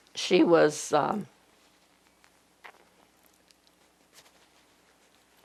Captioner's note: pauses 12 seconds